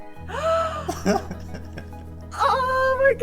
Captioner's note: gasps loudly; chuckles